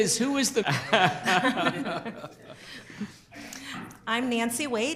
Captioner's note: group laughter